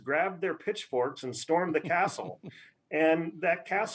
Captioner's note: laughs